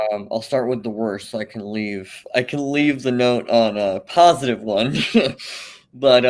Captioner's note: laughs